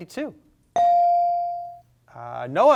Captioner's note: bell sounding